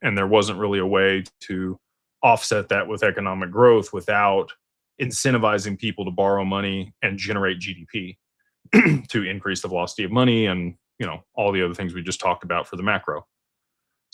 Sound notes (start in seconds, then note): 8.7 clears throat